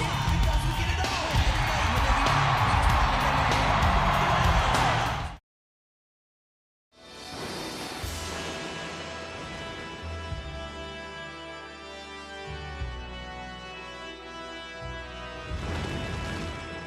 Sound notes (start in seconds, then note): 2.0 audience cheering